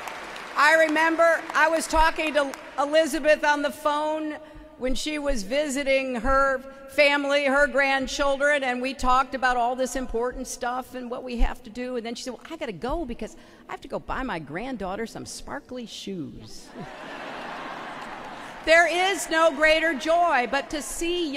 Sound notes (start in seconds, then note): 2.4 applause